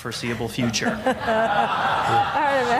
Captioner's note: laughter